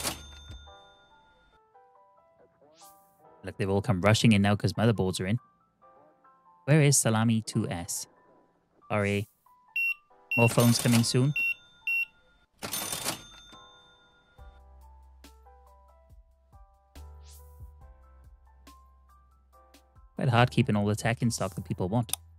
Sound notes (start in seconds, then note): 10.3 beeping